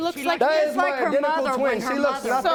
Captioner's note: both arguing